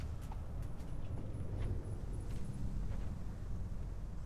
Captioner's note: footsteps clack